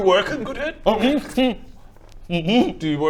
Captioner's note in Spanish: hrmph hmm